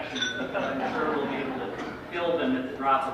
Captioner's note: laughter